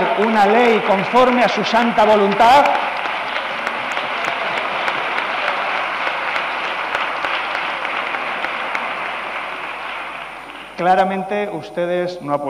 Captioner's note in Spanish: Protestas.-Aplausos